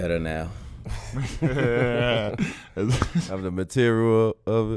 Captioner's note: hosts laughing